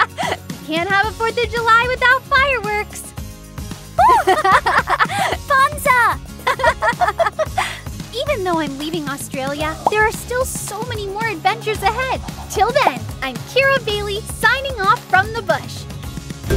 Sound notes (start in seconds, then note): 4.0 both girls laugh; 16.3 upbeat music